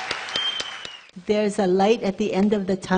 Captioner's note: cheering and clapping